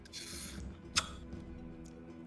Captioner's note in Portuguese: Som de beijinho